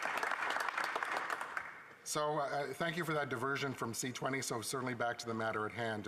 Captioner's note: applause